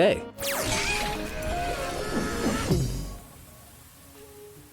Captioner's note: logos whizzing